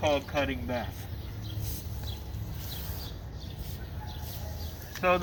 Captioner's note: spray whistling